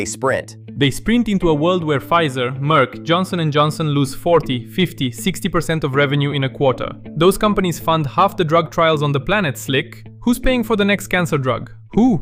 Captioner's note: excited